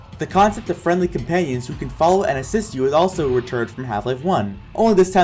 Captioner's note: none